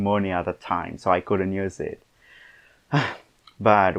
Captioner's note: sigh…